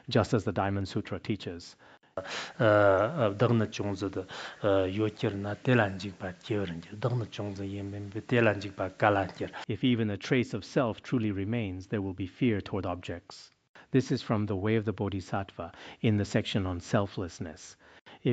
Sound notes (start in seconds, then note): 2.2 citing scripture in Tibetan